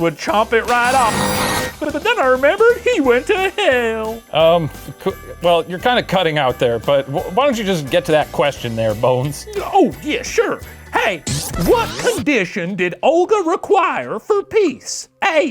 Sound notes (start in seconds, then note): 0.6 static buzzing